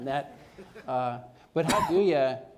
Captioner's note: cough